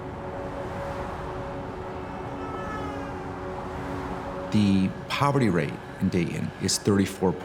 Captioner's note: cars driving by, horn honking